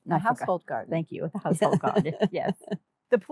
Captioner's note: laughing